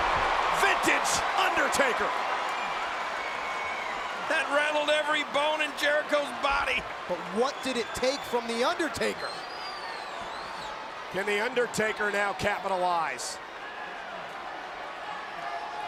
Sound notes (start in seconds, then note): 2.9 crowd cheering